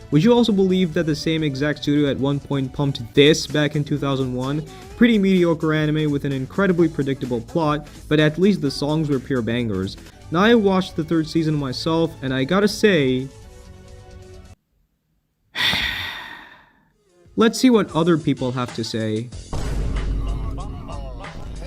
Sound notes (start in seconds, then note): 15.5 dead silence; 15.5 sigh